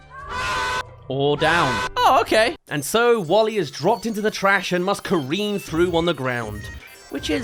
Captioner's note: screams